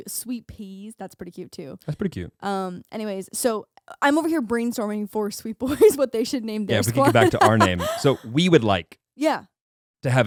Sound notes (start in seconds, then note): 6.7 laughing